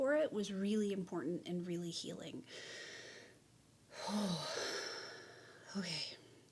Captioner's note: deep sigh